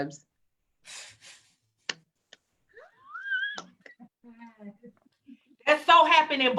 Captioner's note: laughs